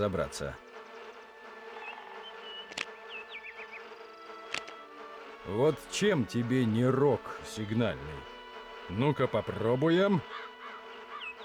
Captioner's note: humming